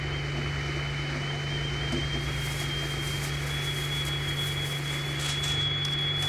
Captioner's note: the kettle starts to scream